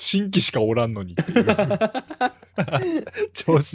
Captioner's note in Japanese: 笑い